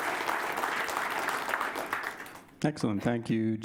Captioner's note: applause